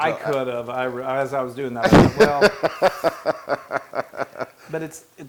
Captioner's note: laugh